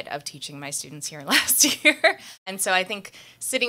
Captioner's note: laughing